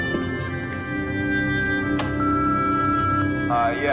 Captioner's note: beeping